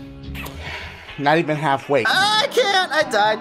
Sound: sigh

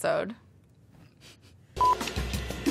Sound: giggling; upbeat music

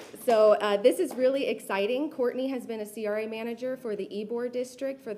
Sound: applause

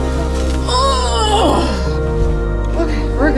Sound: grunt

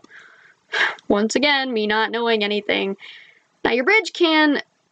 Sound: sighs

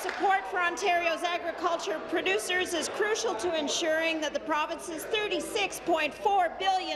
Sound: applause

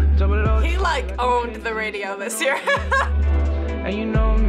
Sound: laughs

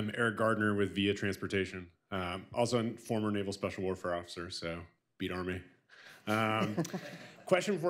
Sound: laughter

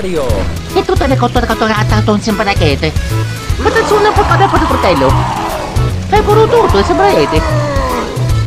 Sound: italian Gibberish

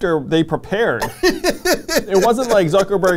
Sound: laughs

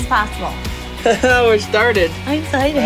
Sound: laughs

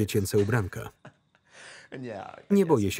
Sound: laughter

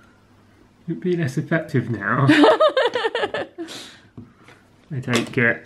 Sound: laughing

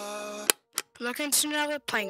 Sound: remote Channel Change

